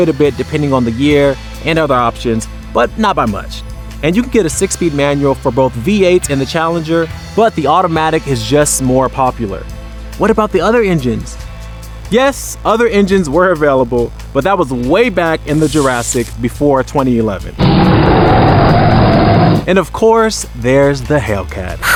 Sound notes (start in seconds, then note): 17.6 dinosaur roar